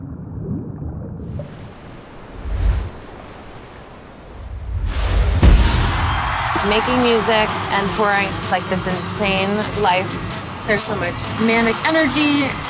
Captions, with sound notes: (crowd cheering) Making music and touring like this insane life. There's so much manic energy.